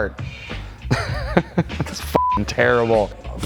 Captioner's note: laughing